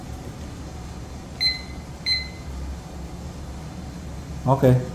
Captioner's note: beeping sound